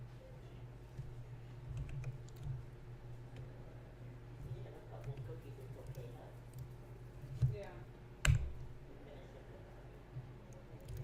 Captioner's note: clicking, typing